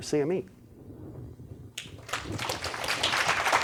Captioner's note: applause